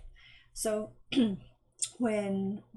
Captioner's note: clearing throat